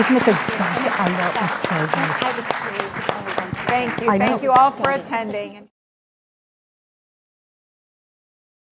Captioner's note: applause